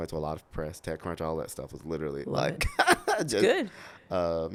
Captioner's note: laughs